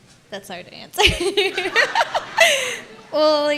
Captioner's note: laughs